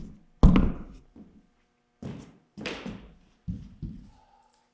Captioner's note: camera thuds